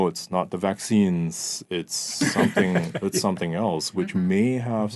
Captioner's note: laughing